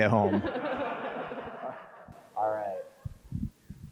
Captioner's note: crowd laughs